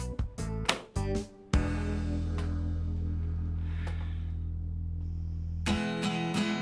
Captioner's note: upbeat groovy music fades; notebook thuds